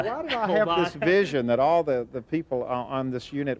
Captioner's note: laughing